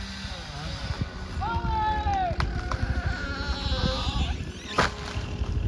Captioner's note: chainsaw rumbling; firefighter shouts; tree squeaking; tree crashing